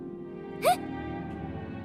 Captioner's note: gasps